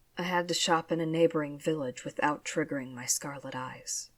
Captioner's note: none